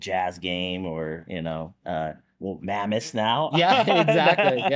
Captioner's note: laughs